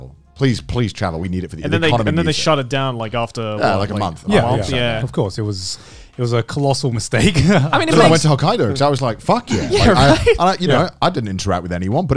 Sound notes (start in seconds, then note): 7.3 laughing